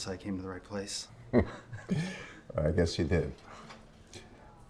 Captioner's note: chuckles